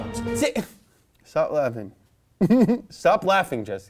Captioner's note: chuckles